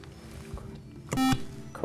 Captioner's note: beep